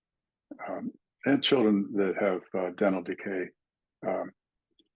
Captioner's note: indistinct chatting